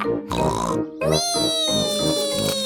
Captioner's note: snorts